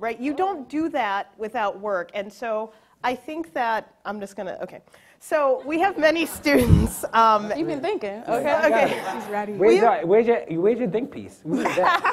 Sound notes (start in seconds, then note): 6.2 laughs; 11.8 laughs